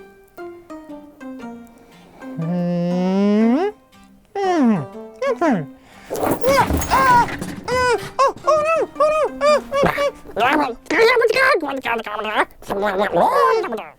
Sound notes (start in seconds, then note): 6.0 enormous crash